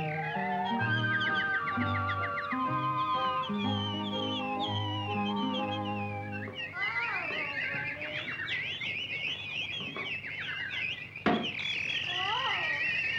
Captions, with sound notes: (romantic orchestral music) Hello, little birdies! (birds chirping) Oh!